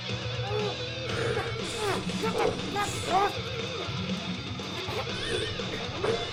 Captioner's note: upbeat rock music; Chad grunting; upbeat rock music continues